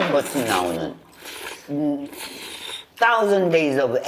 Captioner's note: slurp